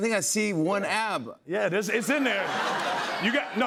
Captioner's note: laughter